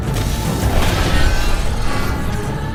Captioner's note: monster squeals